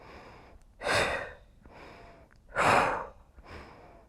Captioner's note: rhythmic breathing